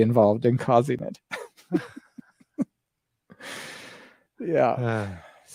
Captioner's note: laughs